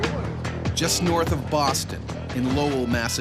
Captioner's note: voiceover